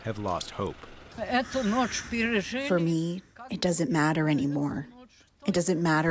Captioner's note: through translator